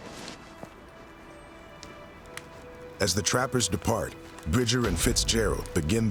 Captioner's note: footsteps